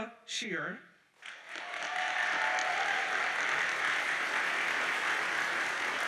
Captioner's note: audience cheers and applauds